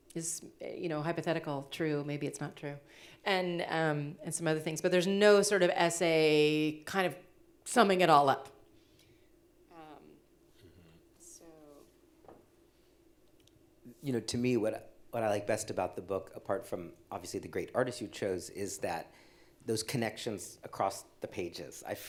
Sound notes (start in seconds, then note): none